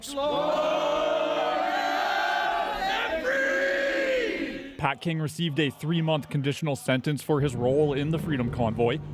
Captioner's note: chanting